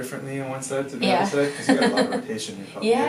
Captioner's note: laughs